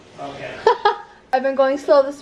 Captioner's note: laughs